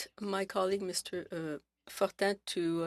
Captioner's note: speaking French